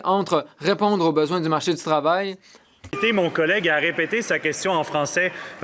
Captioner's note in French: voix de l'interprète